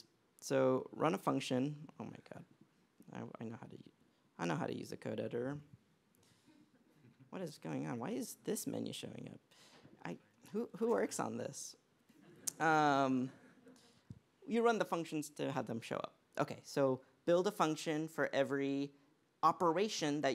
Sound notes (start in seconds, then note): 12.2 laughter